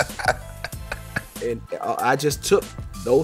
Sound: laughs

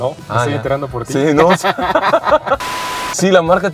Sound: laughter

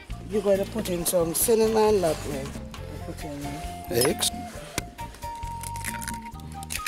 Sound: cracking eggs

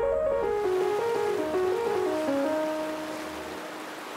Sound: water rushing

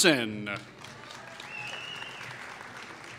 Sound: applause

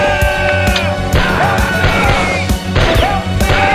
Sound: M16 gun sync with music

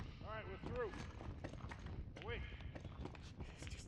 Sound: none

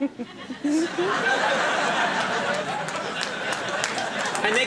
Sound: audience laughing

